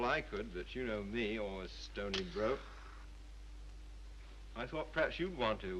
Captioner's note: match strikes